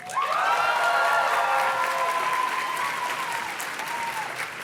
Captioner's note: audience cheers and claps